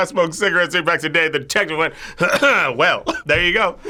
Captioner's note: clears throat